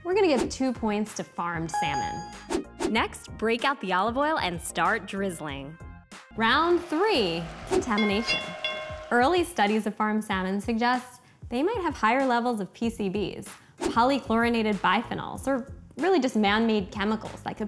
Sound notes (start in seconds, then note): 7.9 bell ringing